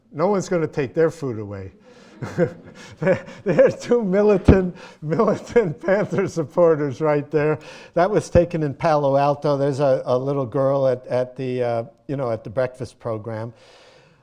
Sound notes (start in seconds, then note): 1.8 laughter